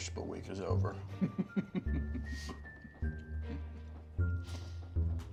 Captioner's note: mealworm laughs